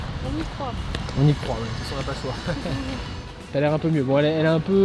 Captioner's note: laughs